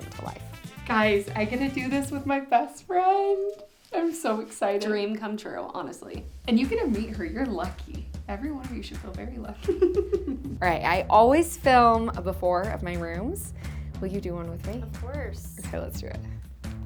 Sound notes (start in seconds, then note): 9.6 laughs